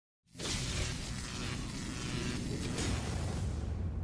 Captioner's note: lightning shocks